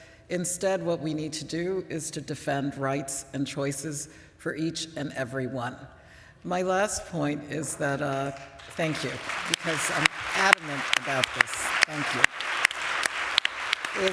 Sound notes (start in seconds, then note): 8.3 applause